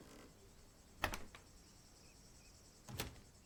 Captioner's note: door Opens and Closes